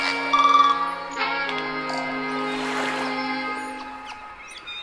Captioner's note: birds chirping; water splashing; birds chirping